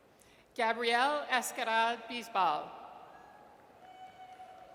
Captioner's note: audience cheers